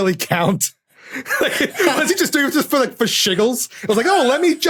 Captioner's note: laughs